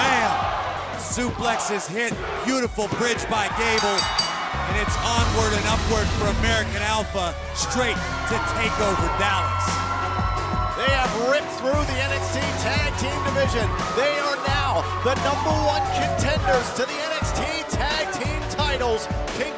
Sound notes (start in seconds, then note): 3.7 bell ringing